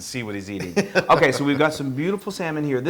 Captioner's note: laugh